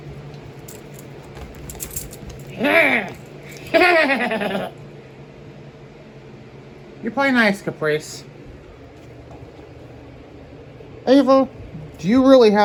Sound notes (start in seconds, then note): 3.5 evil laughter